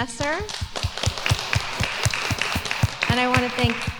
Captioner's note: applause